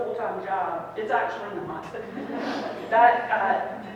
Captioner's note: people laughing